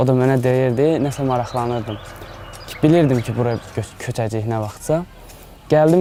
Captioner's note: Georgian